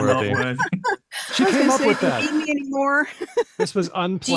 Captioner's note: laughs